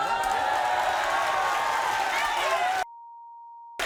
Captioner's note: audience cheering